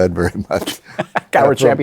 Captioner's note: laughter